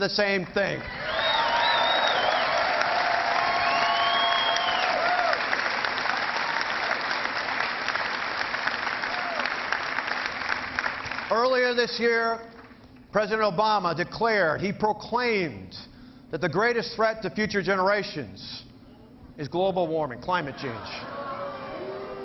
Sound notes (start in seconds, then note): 8.7 cheering